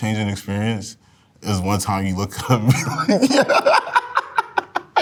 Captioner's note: laughs